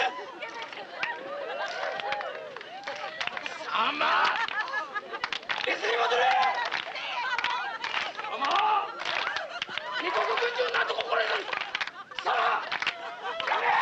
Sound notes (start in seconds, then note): 1.6 hooting; 1.6 laughing; 8.5 rhythmic clapping; 8.5 shouting in Japanese